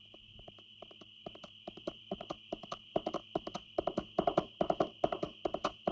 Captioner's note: hooves clopping